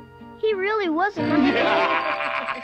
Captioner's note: laughing